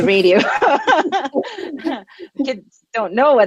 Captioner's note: laughter